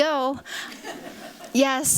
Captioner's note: laughter